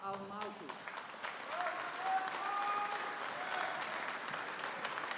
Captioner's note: audience applauding